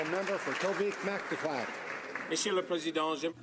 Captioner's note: some Applause